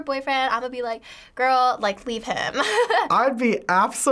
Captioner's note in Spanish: risas